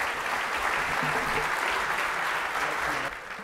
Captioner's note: applause